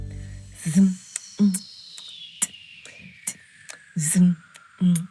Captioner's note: beatboxing